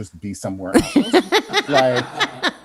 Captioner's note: laughs